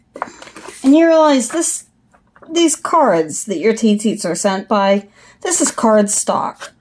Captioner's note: paper sliding